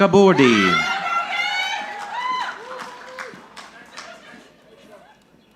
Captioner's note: audience cheering